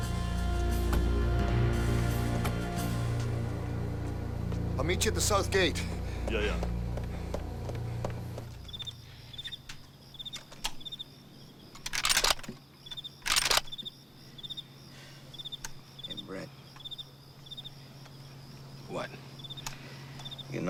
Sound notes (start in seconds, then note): 9.0 crickets chirping; 13.2 gun cocks